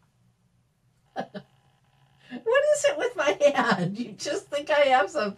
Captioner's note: laughs